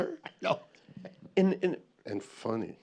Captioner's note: laughing